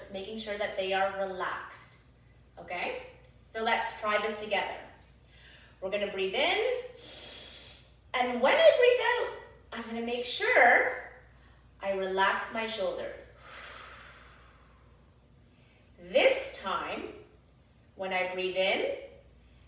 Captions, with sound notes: making sure that they are relaxed. Okay, so let's try this together. We're gonna breathe in. (inhales deeply) And when I breathe out, I'm going to make sure I relax my shoulders. (exhales deeply) This time, when I breathe in,